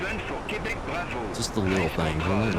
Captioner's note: radio chatter